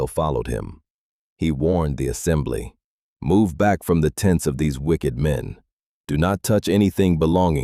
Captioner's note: sternly